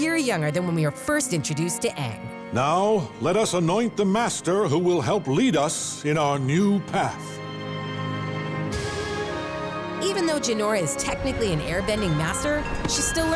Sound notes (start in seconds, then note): none